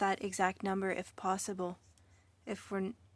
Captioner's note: speaking French